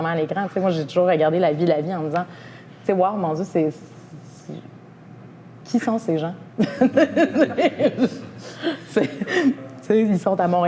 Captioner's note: laughs